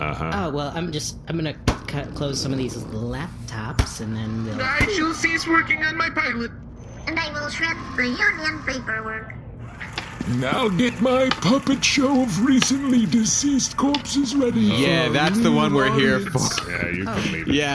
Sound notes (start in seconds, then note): 4.4 closing laptops; 9.7 shredder running